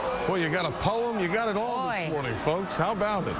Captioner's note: cheers and applause